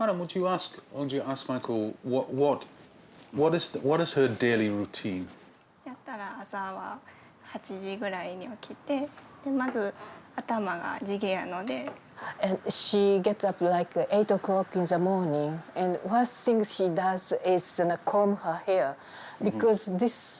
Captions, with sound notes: Madam, would you ask, I want you to ask maiko, [stutters] what is her daily routine? [speaking Japanese] She gets up, like, eight o'clock in the morning and first thing she does is comb her hair